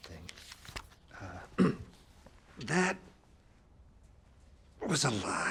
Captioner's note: clears throat